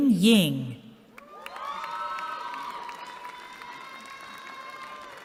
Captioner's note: cheering